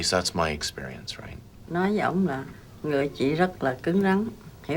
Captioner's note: speaking vietnamese